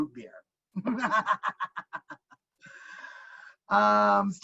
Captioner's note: laughing